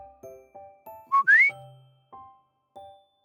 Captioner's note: tweet tweet